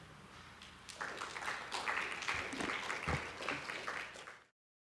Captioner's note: applause